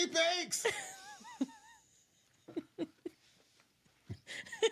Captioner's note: laughing